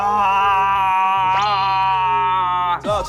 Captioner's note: noise blast